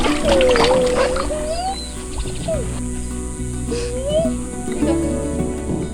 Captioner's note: kids playing in water